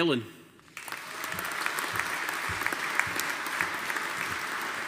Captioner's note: audience applauding